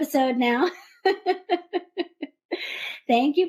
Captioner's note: laughter